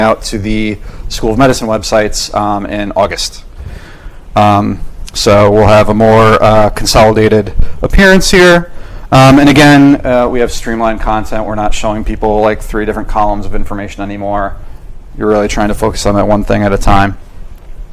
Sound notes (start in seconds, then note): none